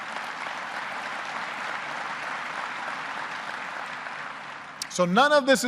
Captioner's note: applause